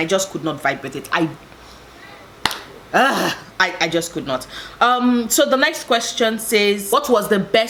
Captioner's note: argh